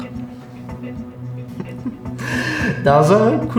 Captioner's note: the man chuckles